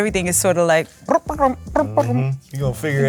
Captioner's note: trills